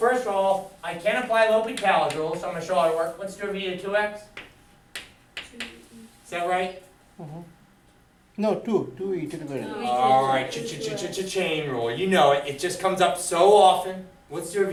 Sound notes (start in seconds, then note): 8.8 voiceover